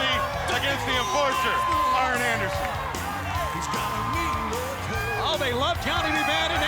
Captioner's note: crowd cheering